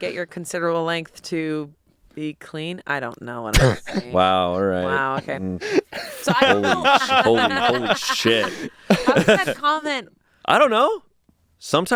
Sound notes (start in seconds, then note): 5.7 everyone laughs